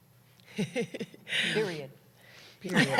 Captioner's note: laughter